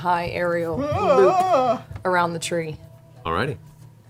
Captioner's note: worried noise